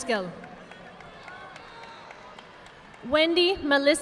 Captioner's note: audience clapping